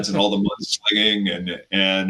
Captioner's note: laughs